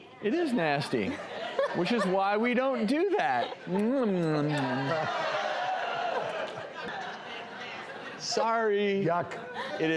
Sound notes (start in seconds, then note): 4.8 audience yells